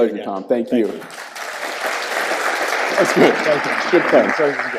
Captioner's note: audience clapping